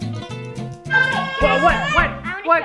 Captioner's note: yelling